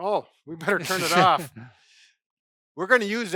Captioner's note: laughs